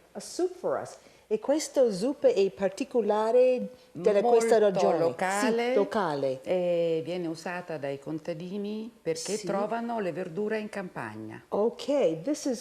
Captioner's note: speaking Italian